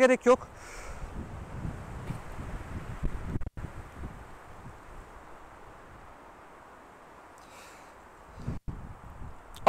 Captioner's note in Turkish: Şiddetli rüzgar sesi